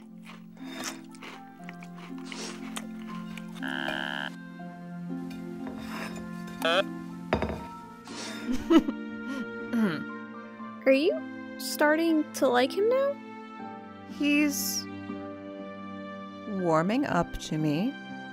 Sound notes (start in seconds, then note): 8.0 Schlurp; 8.2 mom chuckles, then tries to cover it up